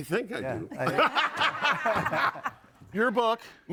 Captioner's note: audience laughing